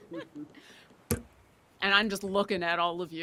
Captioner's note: people laughing